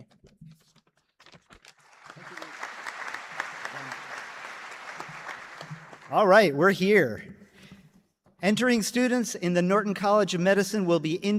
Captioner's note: applause